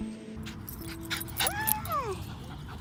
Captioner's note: dog pants